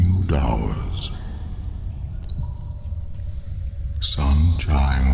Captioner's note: cave noises